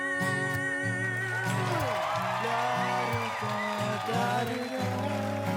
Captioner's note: cheers and applause